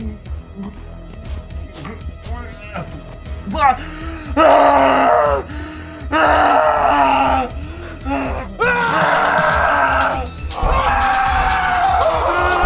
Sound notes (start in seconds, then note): 0.3 Dave gagging; 4.6 Dave Screams; 8.0 Wyatt screams; 10.2 Wyatt and Dave scream